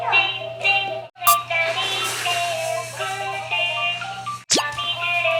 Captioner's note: plastic whistle